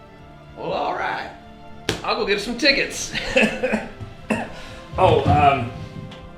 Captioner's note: laughs